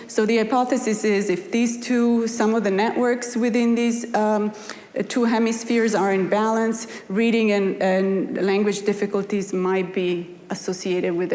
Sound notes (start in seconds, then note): none